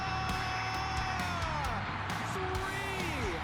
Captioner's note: crowd cheers